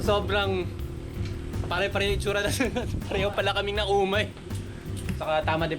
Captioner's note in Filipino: giggles